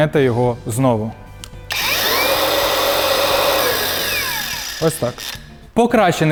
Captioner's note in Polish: dźwięk szlifierki